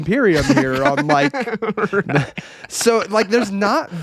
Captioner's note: laughing